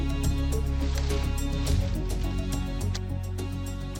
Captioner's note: leaves rustling; suspenseful music continues